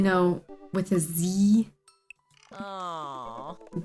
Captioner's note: groans